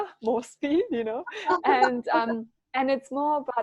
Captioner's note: laughing